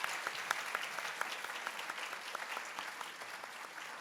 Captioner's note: applause